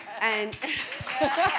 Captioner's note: audience applauding